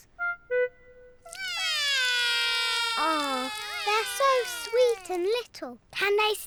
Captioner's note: both whinny; both wail